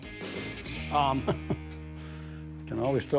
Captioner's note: laughs